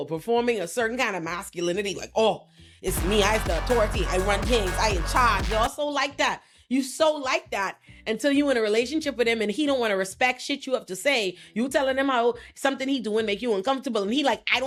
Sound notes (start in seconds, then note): none